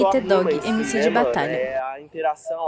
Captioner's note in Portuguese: barulho da plateia se dispersando ao fundo